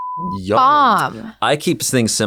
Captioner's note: beeping